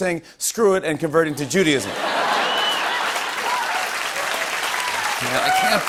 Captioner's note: laughter, cheers and applause